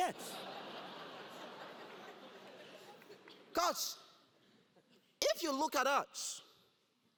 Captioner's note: laugh